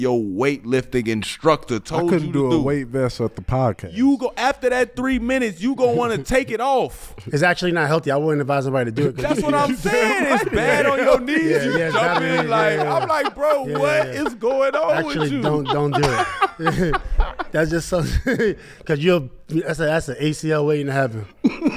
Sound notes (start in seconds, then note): 10.0 laughing; 14.8 laughs